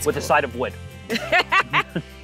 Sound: laughing

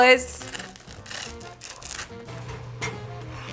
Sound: crackling

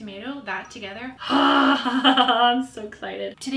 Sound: laughs loudly

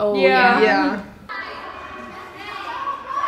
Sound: children playing

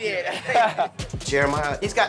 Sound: both laugh

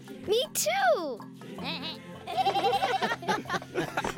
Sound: bleating, laughing

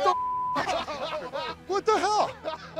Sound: laughter

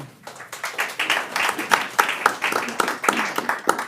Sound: audience applauds

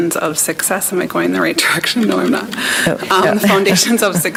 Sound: chuckles

